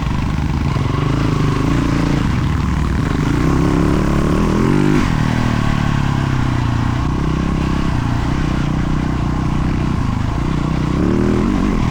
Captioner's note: engine revving